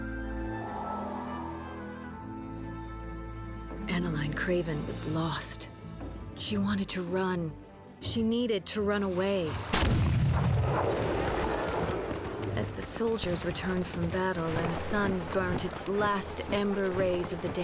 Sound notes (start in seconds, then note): 9.5 cannon blast